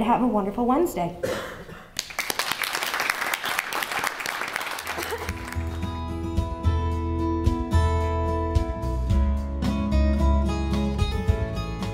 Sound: applause

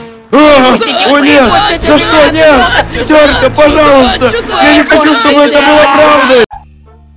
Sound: screaming

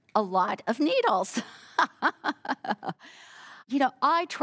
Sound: laughing

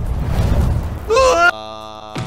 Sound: Oodle shouts

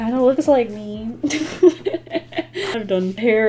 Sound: laughs

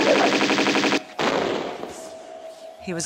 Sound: boom

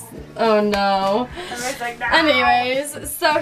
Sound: grumbles

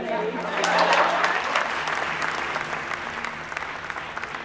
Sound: audience applauds

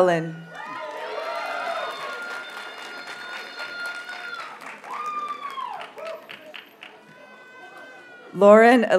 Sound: audience cheers and applauds

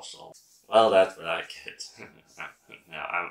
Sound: laughs

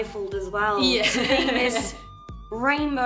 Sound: laughs

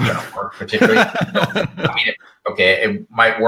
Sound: laughs

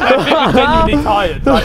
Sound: men laughing

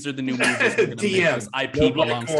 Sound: laughs

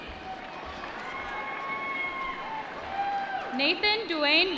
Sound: applause

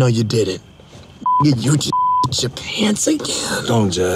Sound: beeps

